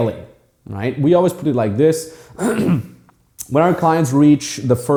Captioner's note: clears throat